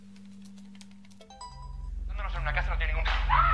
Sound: click

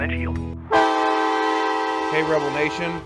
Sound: horn blaring

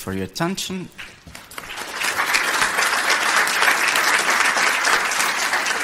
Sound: audience clapping

